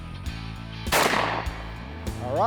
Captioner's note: gunshot